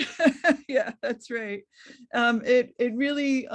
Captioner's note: laugh